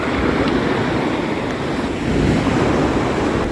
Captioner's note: surf roars